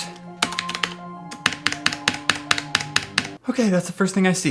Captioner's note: loud typing